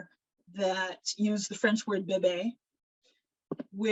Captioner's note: speaking in foreign language